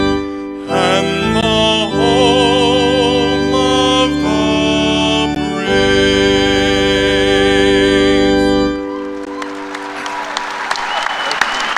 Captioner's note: applause